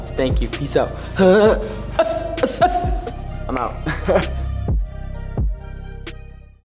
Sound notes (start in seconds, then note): 1.2 grunting; 3.7 laughs